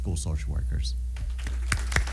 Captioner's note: applause